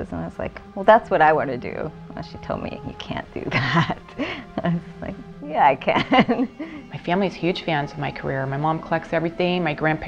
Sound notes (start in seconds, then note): 3.5 laughing